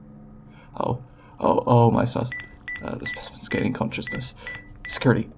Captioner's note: intercom beeping